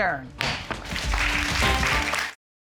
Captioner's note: applause